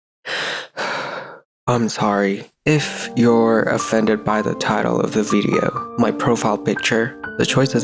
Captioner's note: sigh